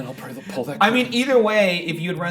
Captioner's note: laughing